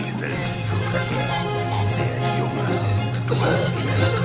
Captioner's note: electricity buzz